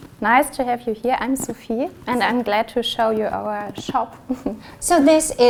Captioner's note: chuckles